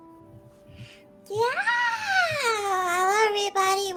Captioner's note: yawning